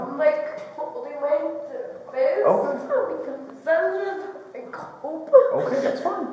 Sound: crying and breaking down

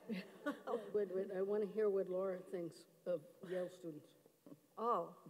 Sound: voice fades

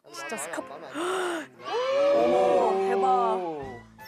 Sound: shouts

